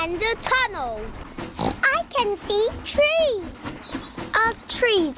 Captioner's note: oinks